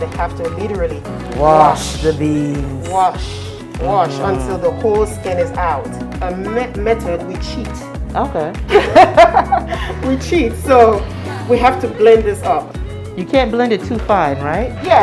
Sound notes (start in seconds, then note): 8.7 laugh